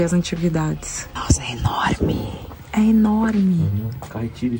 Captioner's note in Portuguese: sussurrando